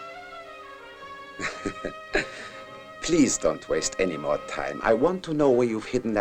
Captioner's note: chuckles